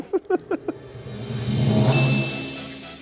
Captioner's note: bell dings